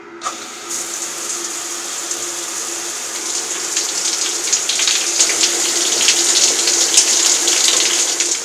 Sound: showering

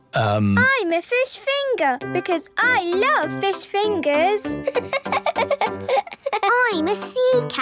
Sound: laughing

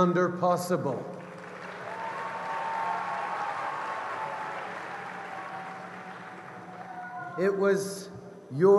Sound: cheers & applause

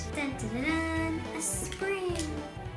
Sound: humming

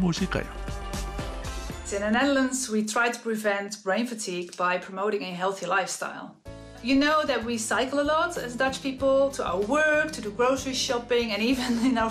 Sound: voiceover

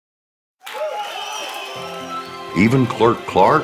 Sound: cheering, clapping, whistling

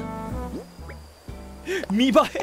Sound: inhales

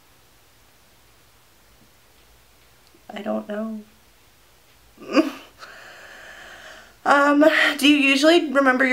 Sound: silence

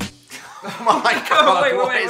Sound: upbeat music; laughs

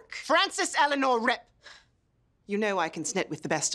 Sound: sighs

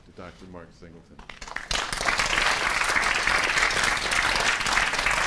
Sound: applause

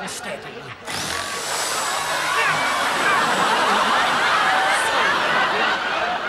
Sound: cutting sounds

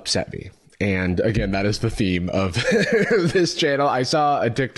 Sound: laughs

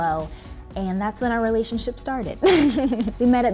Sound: laughs

